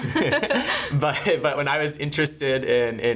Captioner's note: laughing